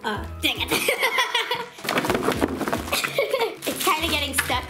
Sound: laughs

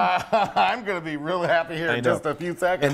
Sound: laugh

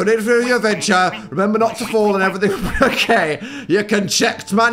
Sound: laughs

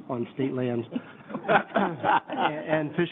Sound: everyone laughing

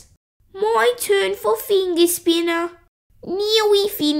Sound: none

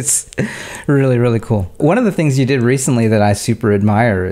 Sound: chuckling

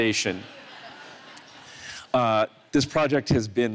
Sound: audience laughs

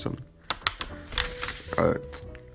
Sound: paper shuffling sounds

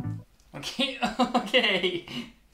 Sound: chuckles

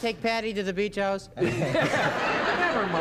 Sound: laughter

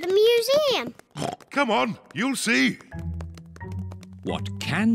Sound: oinks

